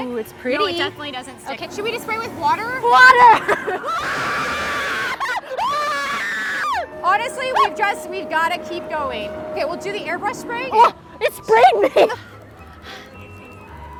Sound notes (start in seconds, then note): 1.7 laughs; 2.5 screams